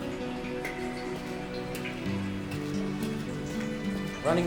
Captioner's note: water dripping